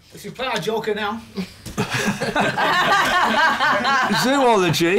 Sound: laughter

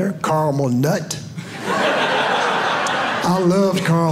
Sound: audience laughing

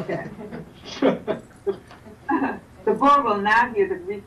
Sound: chuckles

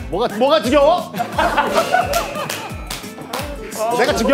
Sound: burst out laughing

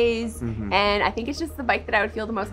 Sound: hums agreeingly

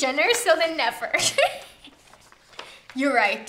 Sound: giggles

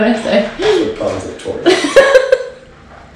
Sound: laughter

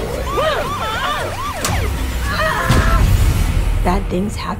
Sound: sirens blare; screams and grunts

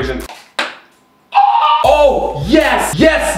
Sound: screeches

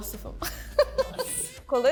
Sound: laughing

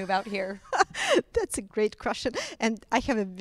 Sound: laughs

